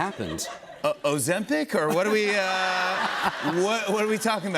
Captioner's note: laughter